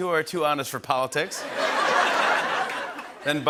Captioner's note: laughter